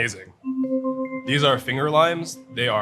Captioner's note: gentle chiming